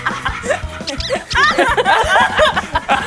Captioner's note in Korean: 폴짝